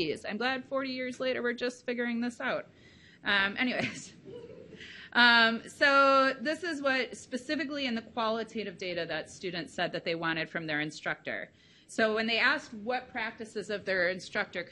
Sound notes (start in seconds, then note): 4.2 laughing